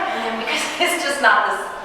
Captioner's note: chuckling